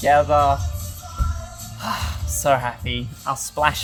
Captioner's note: exhales